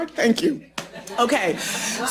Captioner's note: laughter